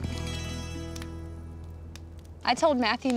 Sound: fire crackles

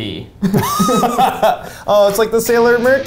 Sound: laughs

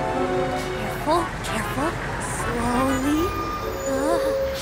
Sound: brakes squeak

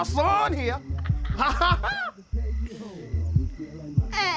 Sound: laughing lightly

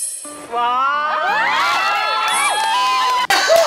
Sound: screams

